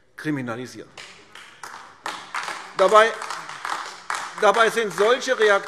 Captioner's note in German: Beifall AfD